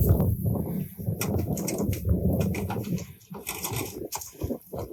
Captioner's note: feet step on metal sound